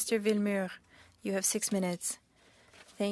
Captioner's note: speaking french